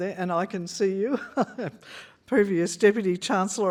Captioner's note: laughs